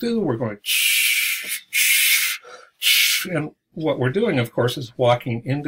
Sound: shshshshshshsh

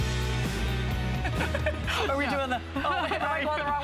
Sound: laughter

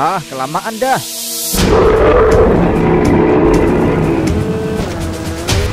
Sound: Kyuubi's roar

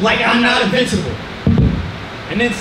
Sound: hitting mics

